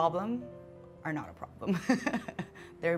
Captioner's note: laughs